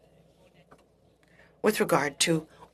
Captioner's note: speaking French